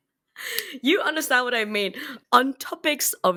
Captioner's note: exasperated